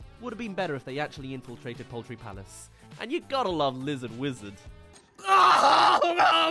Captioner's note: cries